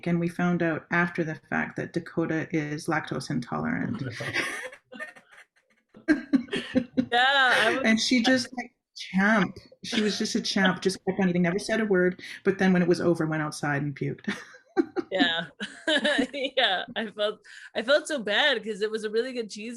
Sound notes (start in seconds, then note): 6.2 laughter